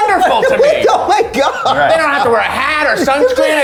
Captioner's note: laughs